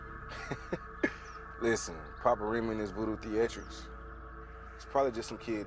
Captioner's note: laughs